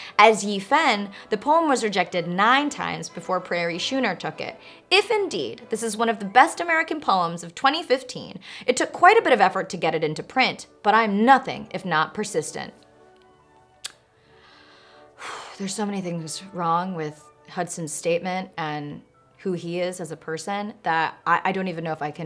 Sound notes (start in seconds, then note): 15.2 exaggerated exhale